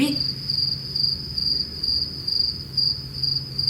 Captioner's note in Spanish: grillo de fondo